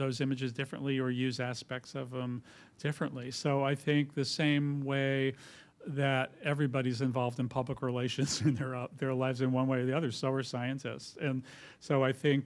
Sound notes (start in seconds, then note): 8.6 laughs